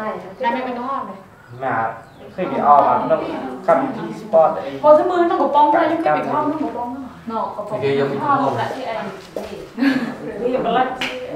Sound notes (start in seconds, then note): 1.9 chattering